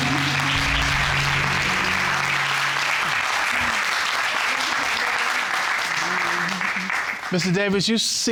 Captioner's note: audience clapping